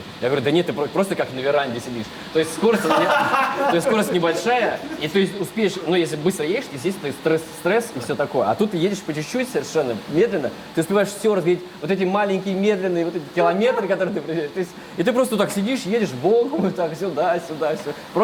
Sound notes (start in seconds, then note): 2.5 laughs behind camera